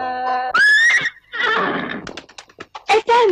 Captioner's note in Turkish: At kişneme sesi